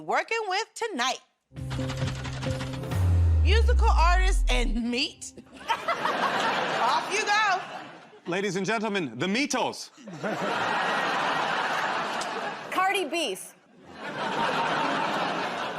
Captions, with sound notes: So let's see what combination you'll be working with tonight. [ Laughter ] Off you go. -Ladies and gentlemen, The Meatles. [ Laughter ] -Cardi Beef. [ Laughter ]